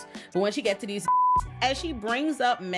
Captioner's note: beep